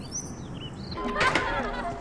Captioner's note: door opens